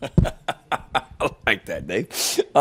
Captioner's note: Shane laughing